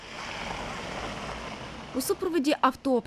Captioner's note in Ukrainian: Шум машин